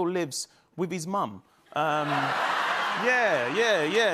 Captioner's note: laughter